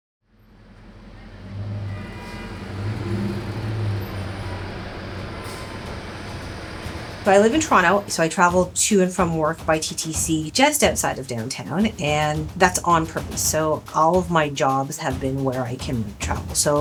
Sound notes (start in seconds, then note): 0.9 car horns blaring and construction sounds clanging; 4.4 intense instrumental music